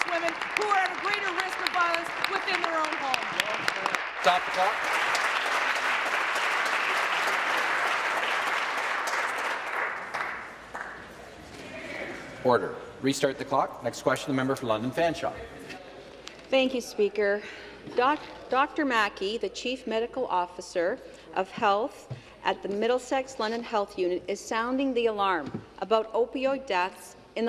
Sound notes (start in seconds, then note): 6.9 applause